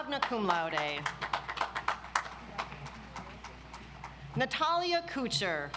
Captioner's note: audience applauds